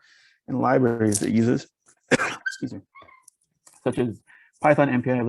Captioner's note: coughs